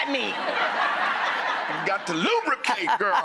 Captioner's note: audience laughing